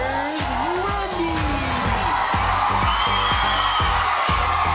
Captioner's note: audience cheers